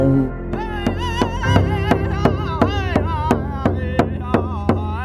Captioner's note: chanting